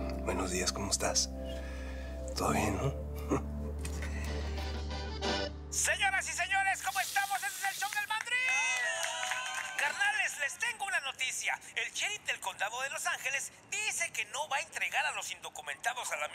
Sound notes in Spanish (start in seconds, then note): 5.4 voz en el radio; 8.5 gritan "bravo"